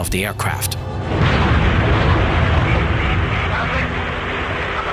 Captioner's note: fin exploding